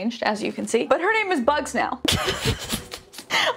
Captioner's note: laughs